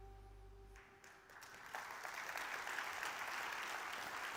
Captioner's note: audience claps